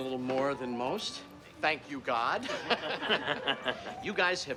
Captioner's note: laughing